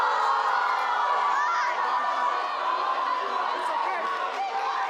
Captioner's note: applause